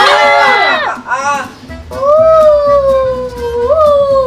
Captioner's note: collective screaming